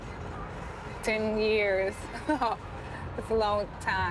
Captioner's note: laughs